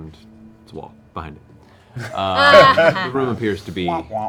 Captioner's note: laughter